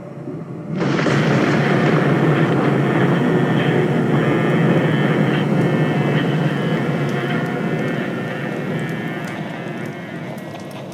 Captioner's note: sounds swell fx as Listener agrees